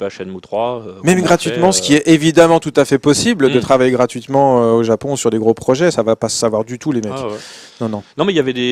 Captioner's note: laughs